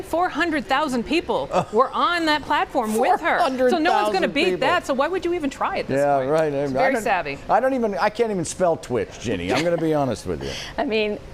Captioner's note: laughter